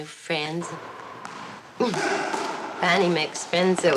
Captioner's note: squash ball smacking wall; Barney and Jack grunting